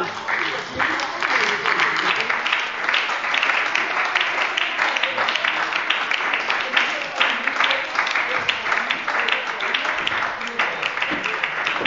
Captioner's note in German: Beifall bei der SPD und der LINKEN